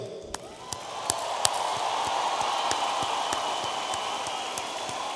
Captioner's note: audience applauding